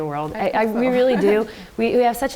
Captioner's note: chuckles